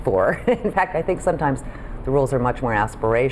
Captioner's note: laughs